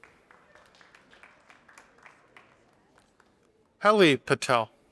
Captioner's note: audience applauding